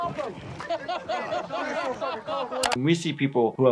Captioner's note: Jackass members laughing